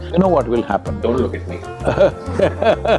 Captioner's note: Sadhguru laughs